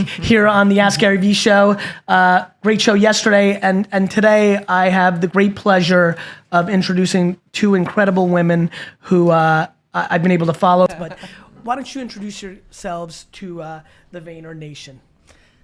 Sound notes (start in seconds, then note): 10.8 women talking